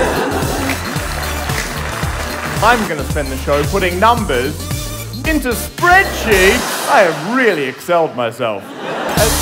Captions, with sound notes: (party poppers) I’m going to spend the show putting numbers into Spreadsheets! I have really Excel-ed myself